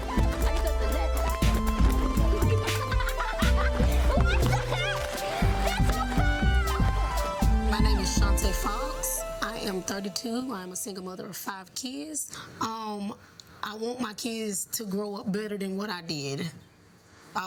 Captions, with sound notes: (kids laughing) (kids jabbering) - My name is Chanta Fox. I am 32. I'm a single mother of five kids. I want my kids to grow up better than what I did.